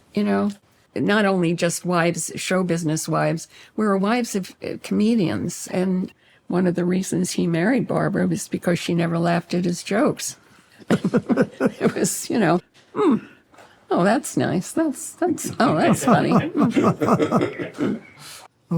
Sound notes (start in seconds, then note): 10.8 both chuckle; 15.4 guys laugh